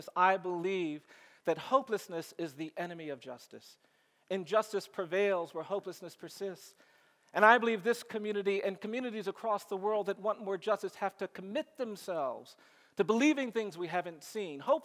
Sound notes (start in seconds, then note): none